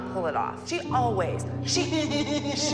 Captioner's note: laughs